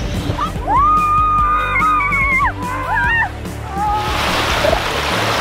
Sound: screaming

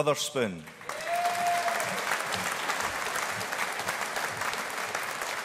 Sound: audience applauding

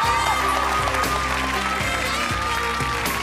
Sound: applauding

